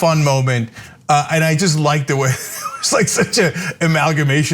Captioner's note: laugh